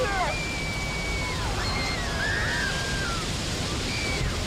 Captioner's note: screaming